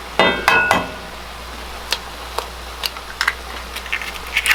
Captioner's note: metal clanging